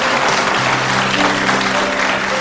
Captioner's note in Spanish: aplausos